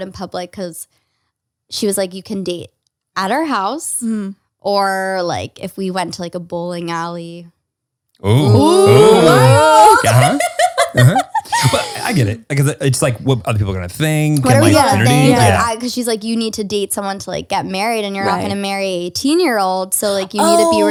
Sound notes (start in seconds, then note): 8.3 laughs